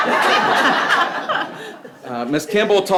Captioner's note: people laughing